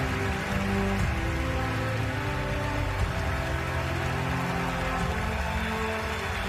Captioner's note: cheers and applause